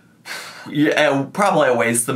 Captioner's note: sighing